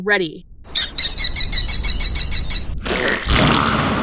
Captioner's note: falcon chirping angrily; explosive shitting